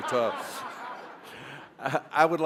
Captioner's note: laughter